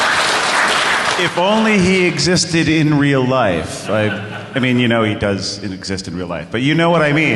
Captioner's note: applause